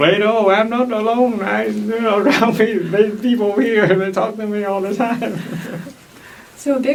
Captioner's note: laughs